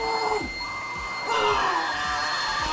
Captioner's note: fax machine beeping